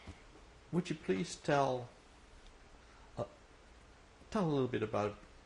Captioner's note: pauses for 3 seconds